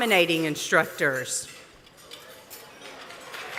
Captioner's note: applause